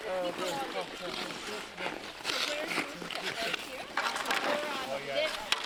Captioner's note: players continue chatting